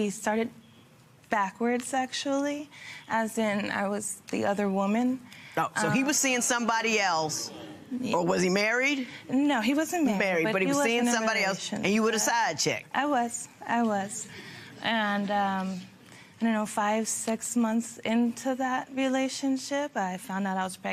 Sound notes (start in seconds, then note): none